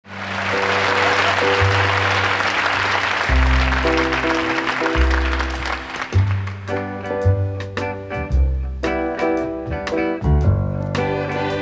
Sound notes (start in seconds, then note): 0.0 audience applauding; 1.1 stirring symphonic pop music